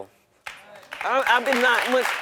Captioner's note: audience applauding